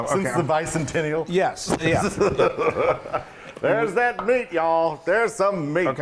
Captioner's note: laugh